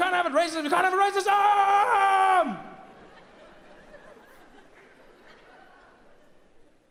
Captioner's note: Trevor screams; audience laughs